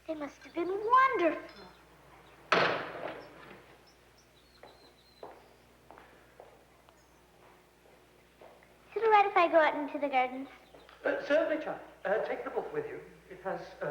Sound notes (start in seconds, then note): 2.5 object slams